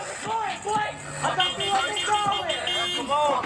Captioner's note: horn honking